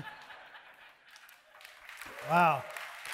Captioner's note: audience laughing